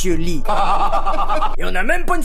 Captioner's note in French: rires